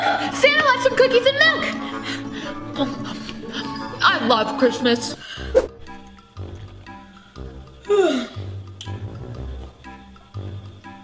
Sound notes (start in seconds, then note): 7.8 yawn